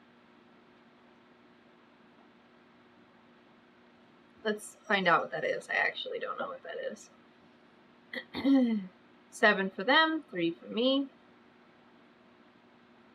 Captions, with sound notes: LET'S FIND OUT WHAT THAT IS I ACTUALLY DON'T KNOW WHAT THAT IS [CLEARS THROAT] SEVEN FOR THEM THREE FOR ME